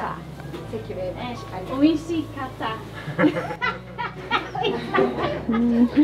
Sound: laughter

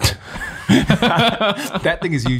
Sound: all laughing

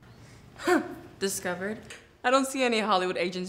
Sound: scoffs

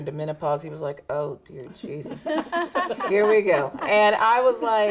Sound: group laughing

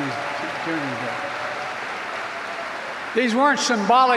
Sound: applause

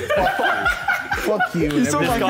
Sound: laughter

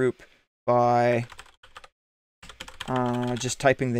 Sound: keyboard typing

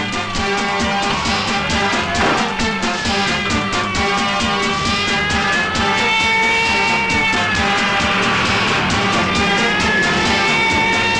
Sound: police siren blares

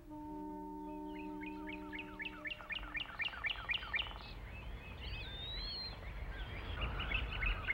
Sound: birds chirping

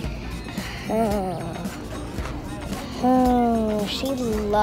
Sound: exhales noisily

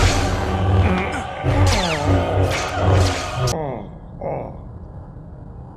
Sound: groaning in pain

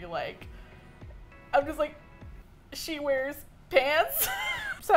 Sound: laughs

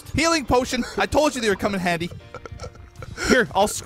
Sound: stressed laughter

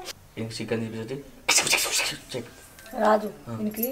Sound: makes random sounds

